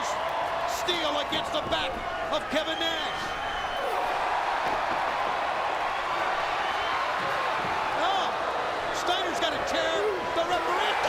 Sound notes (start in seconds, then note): 4.8 crowd cheering